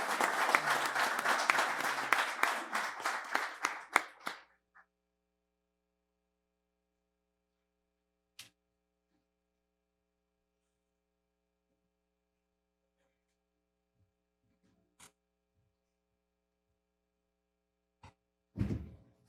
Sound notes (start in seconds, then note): 1.5 applause